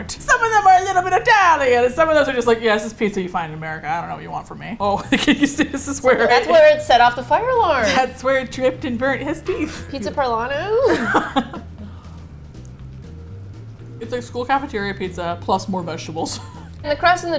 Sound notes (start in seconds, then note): 0.1 attempting Italian accent; 4.9 laughs; 6.5 nostalgically; 10.6 with hesitation; 10.8 both laugh; 15.9 laughs